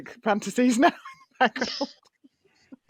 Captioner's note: laughs